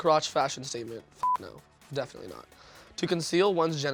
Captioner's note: beep